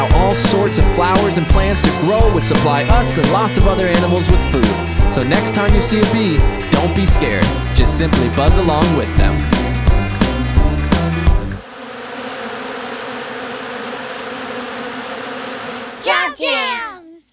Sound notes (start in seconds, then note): 9.8 upbeat music; 11.8 bees buzzing